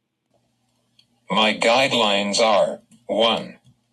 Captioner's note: voiceover